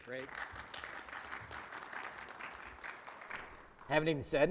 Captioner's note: audience applauds